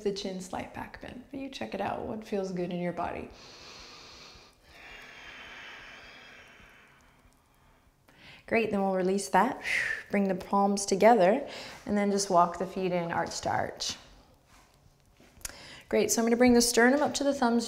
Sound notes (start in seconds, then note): 3.3 deep breath